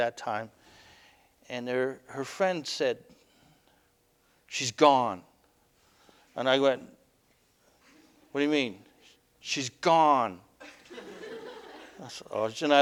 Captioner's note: audience: Laughter